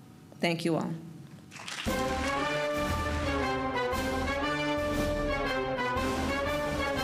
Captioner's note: applause